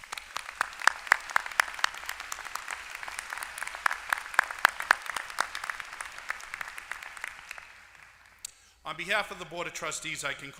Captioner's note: applause